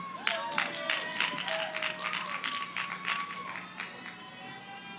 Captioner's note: cheering